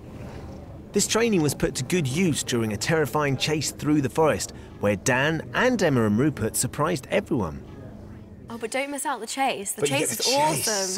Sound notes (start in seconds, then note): none